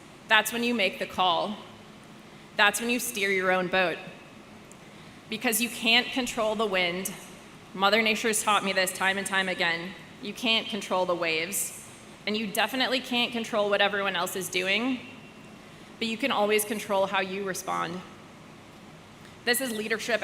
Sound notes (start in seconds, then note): none